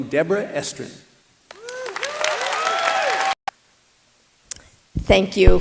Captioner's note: applause